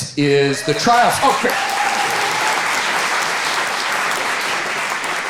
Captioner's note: audience applauding